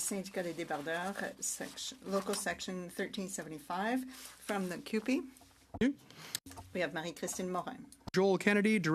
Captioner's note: speaking French